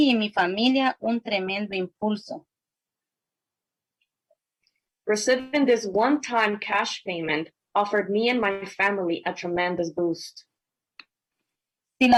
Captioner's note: spanish